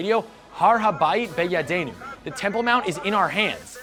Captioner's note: presenter speaks in foreign language